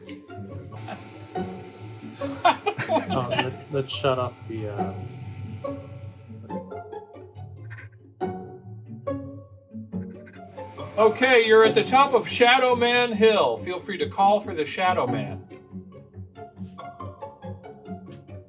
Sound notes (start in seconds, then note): 2.1 laughing; 6.1 gentle playful music